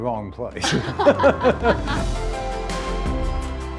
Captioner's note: group laughs; bright music